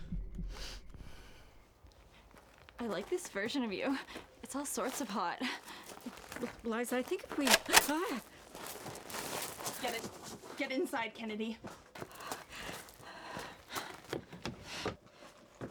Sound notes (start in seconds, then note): 0.3 loud Sniff; 7.2 gun Loading Sound